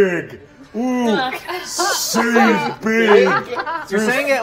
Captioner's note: laughing